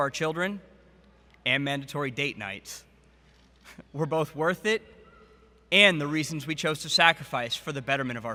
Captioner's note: laughs